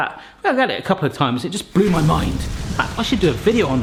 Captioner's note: explosion roars